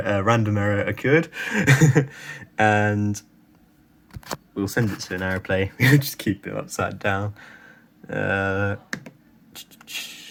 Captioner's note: he laughs